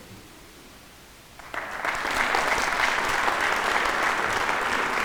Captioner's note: audience applauding